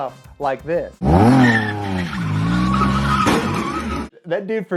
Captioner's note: car engine roaring